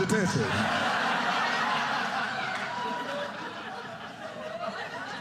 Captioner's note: audience laughing